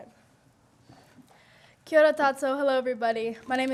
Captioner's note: speaking Native Language